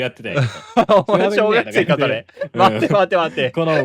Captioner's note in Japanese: 笑い